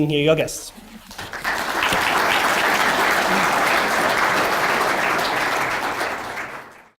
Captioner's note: audience applause